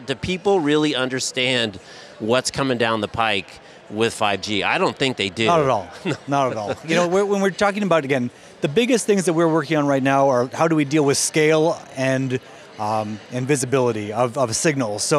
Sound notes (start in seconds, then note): 5.5 laughs